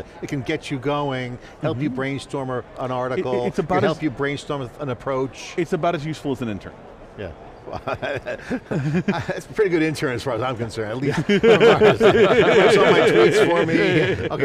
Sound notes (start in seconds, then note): 7.7 laughs; 11.0 laughing